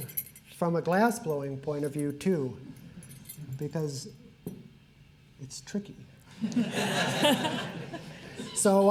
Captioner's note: laughter